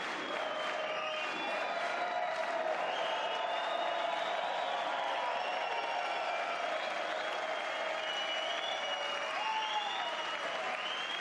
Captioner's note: applause